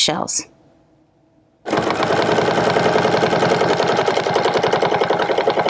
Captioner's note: machine whirring